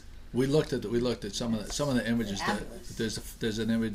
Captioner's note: voiceover